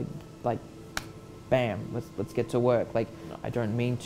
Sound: clap

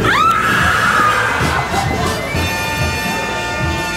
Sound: screaming

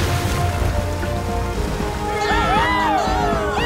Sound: cheering

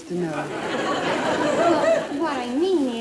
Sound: crowd laughing

